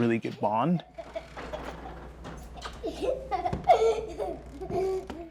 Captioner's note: child laughing